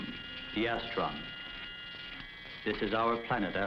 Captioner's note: buzzing